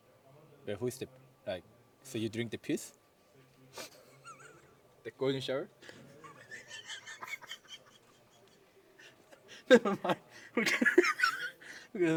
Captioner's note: laughs